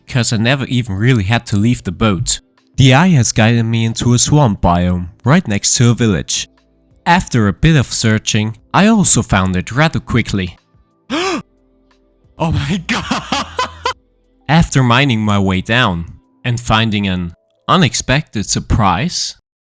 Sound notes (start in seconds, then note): 11.1 gasping; 12.4 laughing